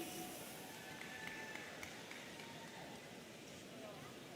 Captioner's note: audience cheering